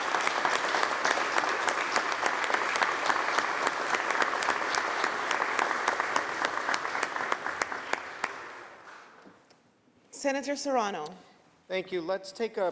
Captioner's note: applause